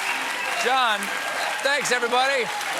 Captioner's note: cheers and applause